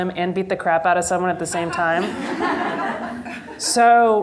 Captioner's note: members of the audience laugh